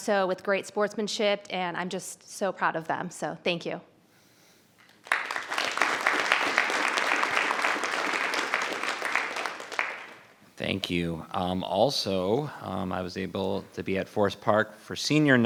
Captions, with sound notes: so with great sportsmanship and I'm just so proud of them. So, thank you. (everyone applauds) - Thank you. Also, I was able to be at Forest Park for senior